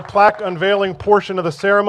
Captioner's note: applause